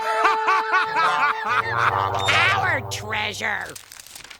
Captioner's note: laughing